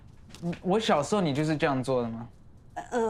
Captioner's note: speaks foreign language